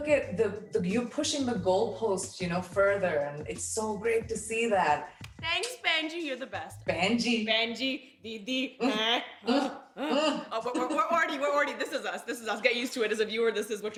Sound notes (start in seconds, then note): 10.0 both grunting